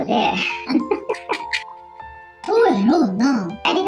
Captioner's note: laughs